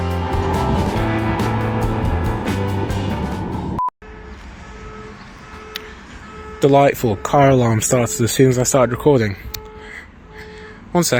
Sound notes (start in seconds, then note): 3.8 car alarm sounds